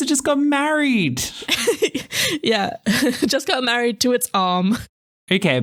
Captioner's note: laugh